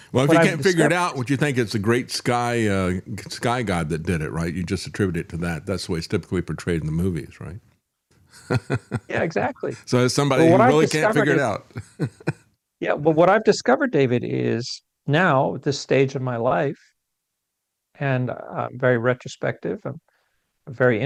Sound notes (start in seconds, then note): 8.3 laughs